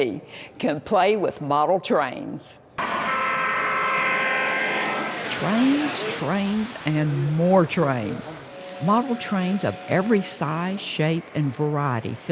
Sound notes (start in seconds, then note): 3.5 train whistle blows